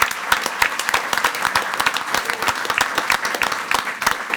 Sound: everyone applauding

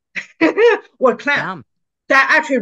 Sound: laughs

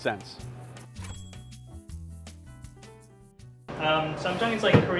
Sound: cash register clinks

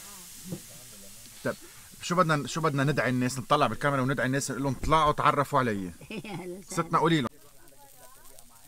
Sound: laughing

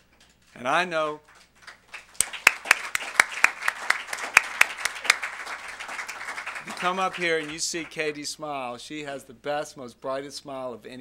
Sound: applause

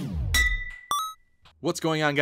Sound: ding

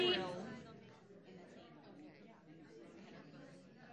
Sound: crowd murmurs

